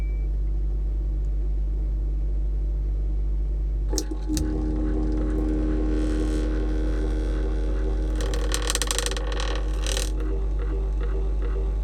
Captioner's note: fridge bleeps